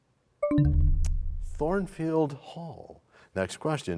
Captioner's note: bell chimes, time expires